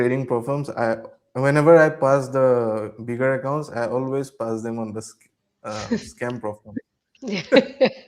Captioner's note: laughter